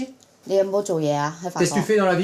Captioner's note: foreign language